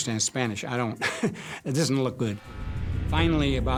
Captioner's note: chuckles